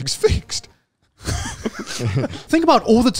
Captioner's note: laughs